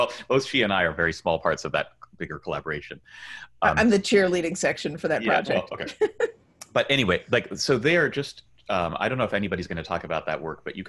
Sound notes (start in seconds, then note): 5.2 laughs